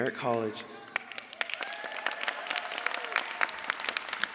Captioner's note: cheers and applause